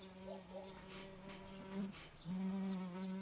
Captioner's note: bees buzzing